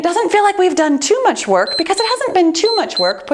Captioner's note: timer beeps